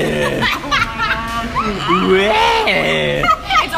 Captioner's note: laughs